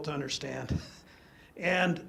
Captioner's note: chuckles